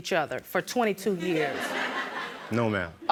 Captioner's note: audience laugh